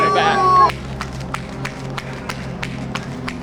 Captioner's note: running footsteps